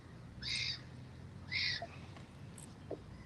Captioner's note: birds chirping